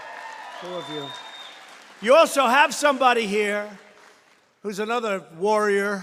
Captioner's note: applause